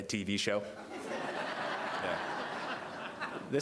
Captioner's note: laughter